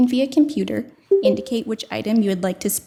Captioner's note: computer chimes